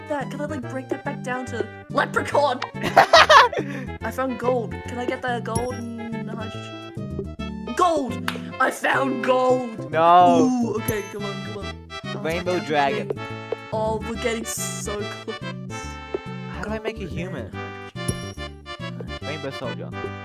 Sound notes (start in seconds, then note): 2.8 laughter that sounds forced